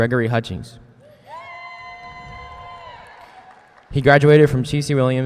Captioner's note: students cheering